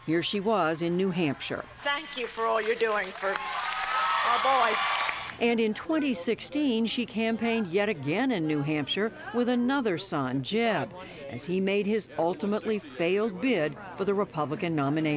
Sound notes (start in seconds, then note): 4.5 cheering and applause